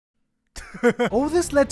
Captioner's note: laughs at own joke again